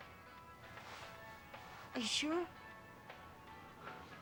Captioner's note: none